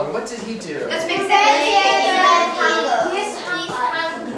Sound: chattering

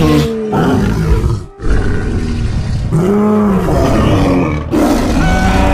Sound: triceratops Sounds

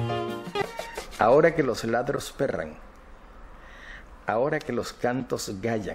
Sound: Marquez speaking foreign language

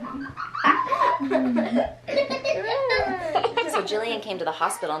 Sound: children laughing

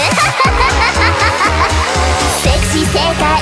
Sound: ahhahhahha...❤

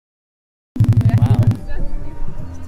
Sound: device beeps softly

